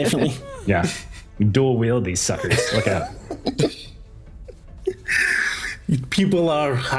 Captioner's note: laughs